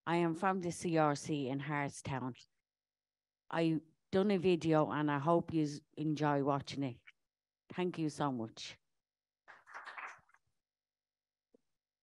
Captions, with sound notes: I am from the CRC in Hartstown, I done a video and I hope you enjoy watching it. Thank you so much. [APPLAUSE]